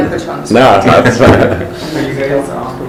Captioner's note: laughs